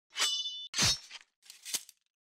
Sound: swords slashing

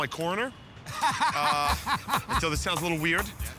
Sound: laughter

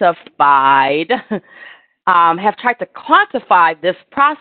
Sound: laughter

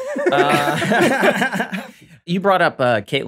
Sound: all laughing

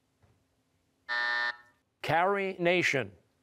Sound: buzzer

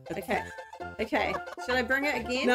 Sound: laughs

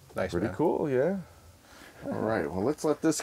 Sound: voiceover

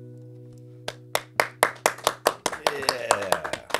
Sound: claps

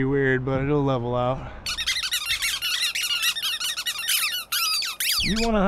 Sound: Rat King squeaking

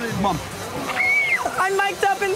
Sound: squeals

